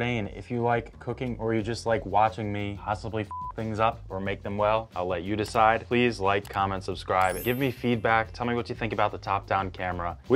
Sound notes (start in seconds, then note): 3.2 beeps